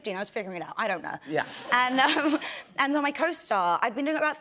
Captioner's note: laughter